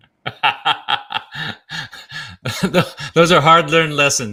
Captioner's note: John laughs